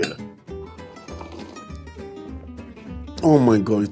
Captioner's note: slurping